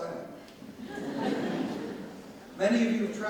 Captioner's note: audience laughs